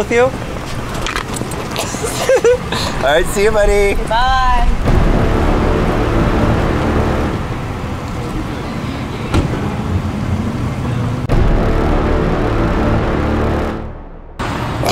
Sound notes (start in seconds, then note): 1.8 laughing; 4.1 dramatic music